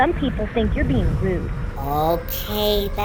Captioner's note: creatures vocal howling